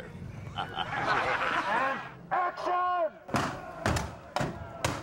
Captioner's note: gunshots firing